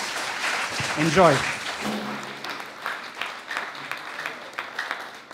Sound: applause

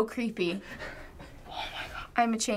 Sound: whispering

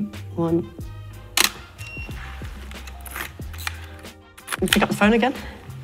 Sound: camera shutter clicks

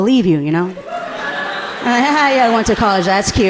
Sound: audience laughing amusingly

